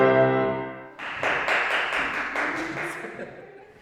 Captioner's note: clapping